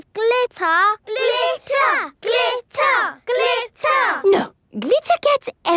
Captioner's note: chanting